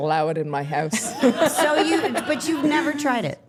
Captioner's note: staff laughing